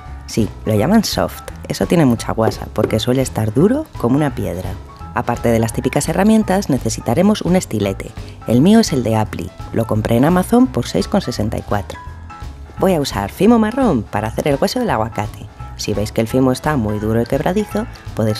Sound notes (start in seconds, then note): 2.4 konk, konk